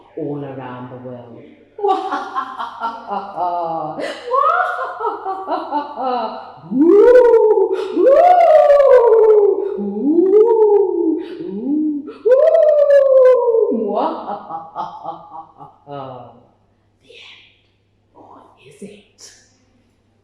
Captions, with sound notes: all around the world. Mu-ha-ha-ha-ha-ha-ha Mu-ha-ha-ha-ha-ha-ha (ghost sounds) (ghost sounds) Mu-ha-ha-ha-ha-ha-ha-ha The end, or is it?